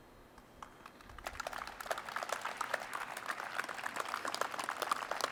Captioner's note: audience applauds